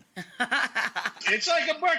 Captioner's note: woman laughing